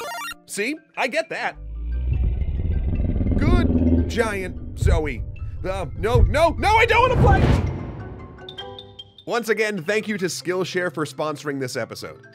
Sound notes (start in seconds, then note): 1.5 deep growl